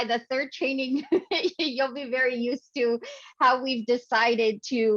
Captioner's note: chuckles